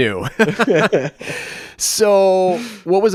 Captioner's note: both laugh